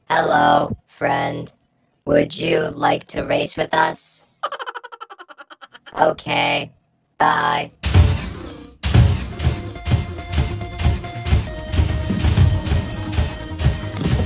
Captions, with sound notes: - (robotic voice) Hello, friend. Would you like to race with us? (giggling) Okay, bye. (feet stomping)